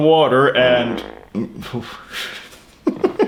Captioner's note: laughs